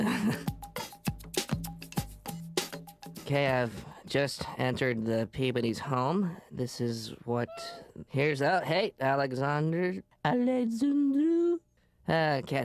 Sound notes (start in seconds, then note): 7.4 meows; 11.2 in high pitch